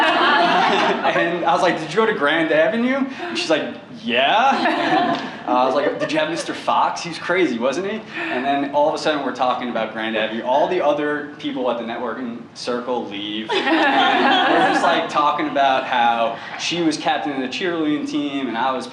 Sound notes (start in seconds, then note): 0.0 laughter; 13.5 laughter